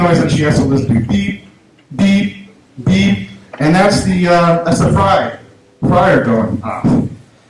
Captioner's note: beep, beep, beep